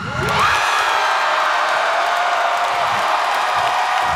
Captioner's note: audience cheering